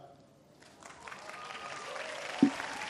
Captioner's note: applause